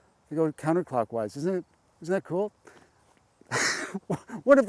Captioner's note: chuckles